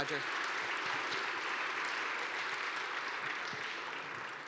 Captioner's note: applause